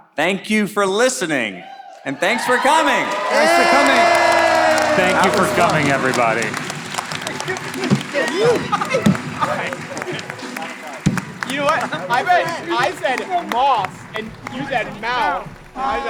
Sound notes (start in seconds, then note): 3.3 all applauding; 7.0 all clapping